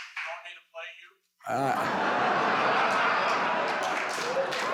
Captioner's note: audience laughs